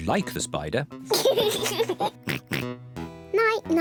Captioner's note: laughs and oinks